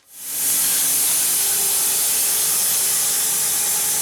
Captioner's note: saw whirring